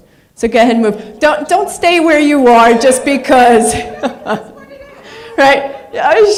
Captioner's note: laughs